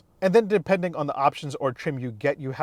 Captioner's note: none